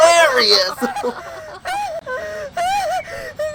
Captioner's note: crying in pain